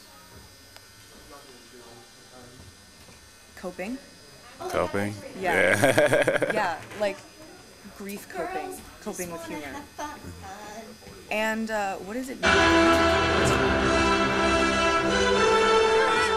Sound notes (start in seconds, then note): 5.5 laughing; 12.4 dramatic music